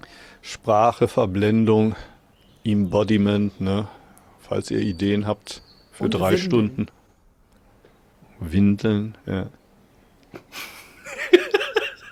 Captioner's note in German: gelächter